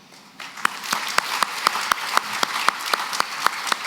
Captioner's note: applause